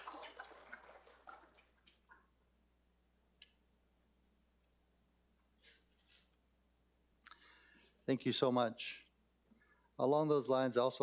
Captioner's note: applause